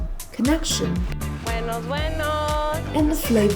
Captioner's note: Spanish